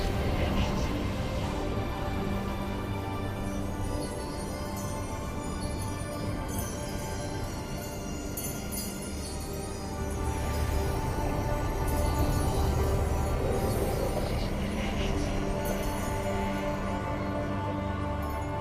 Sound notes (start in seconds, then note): 0.0 atmosphere whooshing; 2.5 light chiming; 15.6 pleasant music